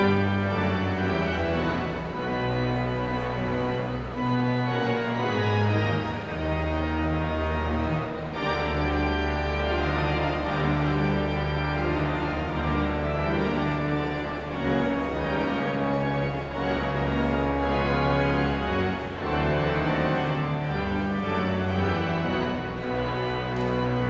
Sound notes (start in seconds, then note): 4.4 audience chattering continues; 19.0 exhilarating organ music continues; 23.8 audience chattering continues